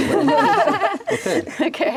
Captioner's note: laughs